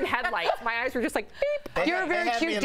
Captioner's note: laughter